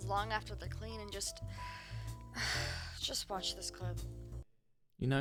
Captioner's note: sigh